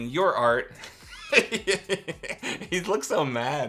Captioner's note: laughs